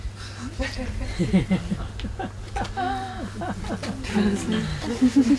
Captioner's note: soft laughter